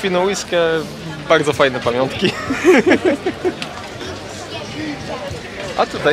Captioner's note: laughter